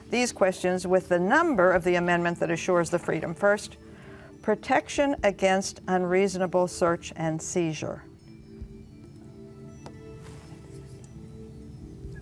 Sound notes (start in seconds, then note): 8.7 whispering